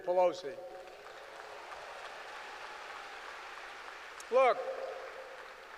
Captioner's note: applause